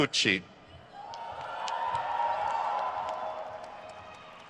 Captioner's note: crowd cheers